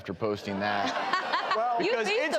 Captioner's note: audience laughs